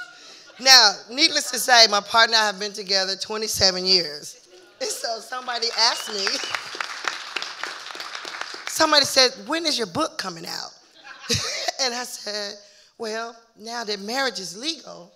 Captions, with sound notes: Now, needless to say, my partner and I have been together 27 years. So, if somebody asks me... (audience cheering and applauding) Somebody said, "When is your book coming out?" (laughing) And, I said, "Well, now that marriage is legal,